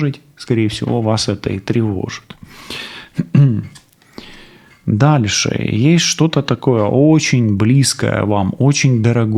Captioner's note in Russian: откашливается